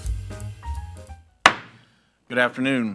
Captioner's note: gavel thudding